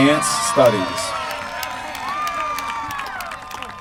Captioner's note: applause